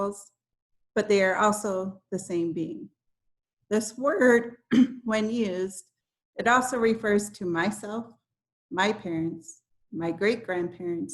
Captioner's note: clears throat